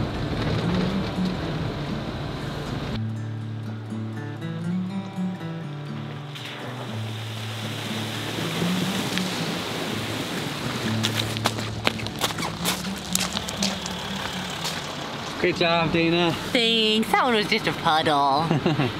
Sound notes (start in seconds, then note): 0.3 calm guitar music; 7.3 water rushing; 11.8 mud squishing